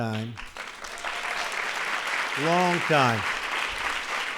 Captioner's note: applause